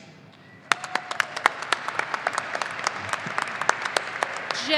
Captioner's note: audience applauding